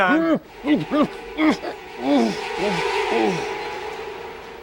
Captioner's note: Suarez groans